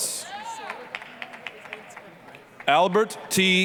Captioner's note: applause, cheering